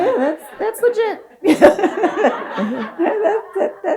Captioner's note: audience laughs; and audience laughs